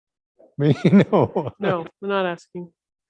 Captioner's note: laughing